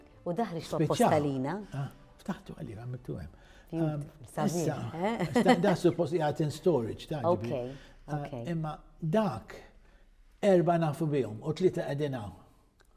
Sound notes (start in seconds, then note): 4.4 laughs